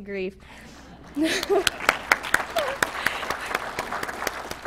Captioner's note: applause